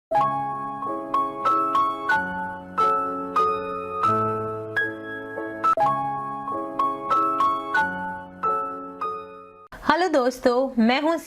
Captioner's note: Hindi